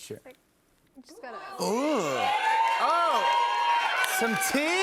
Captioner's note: cheers and applause